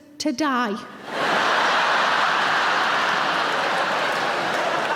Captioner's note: audience laughing